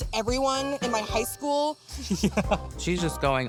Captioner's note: chuckling